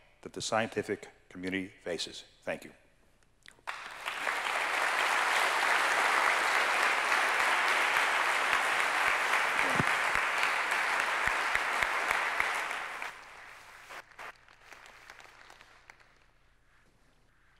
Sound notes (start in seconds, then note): 3.6 applause